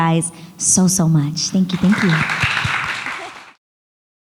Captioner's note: audience applauds